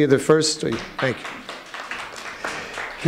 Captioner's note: applauding